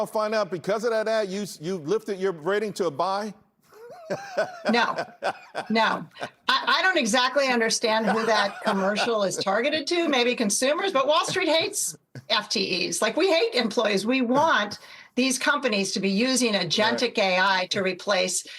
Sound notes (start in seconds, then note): 11.1 laughter